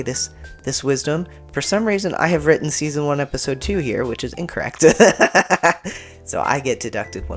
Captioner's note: laugh